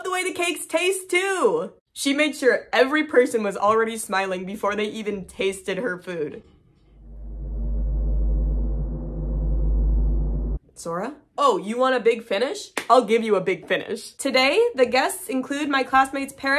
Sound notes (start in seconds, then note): 6.8 creepy droning sound